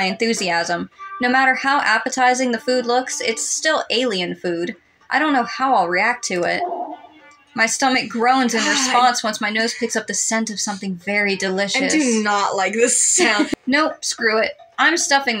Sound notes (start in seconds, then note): 11.8 laugh